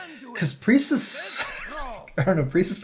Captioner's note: laughs